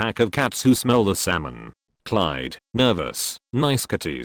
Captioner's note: nervous